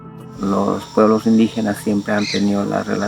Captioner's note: speaking spanish